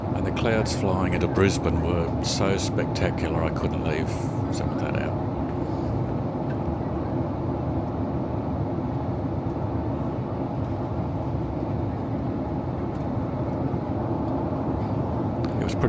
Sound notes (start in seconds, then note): 10.2 aircraft sounds